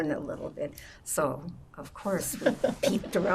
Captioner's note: laughing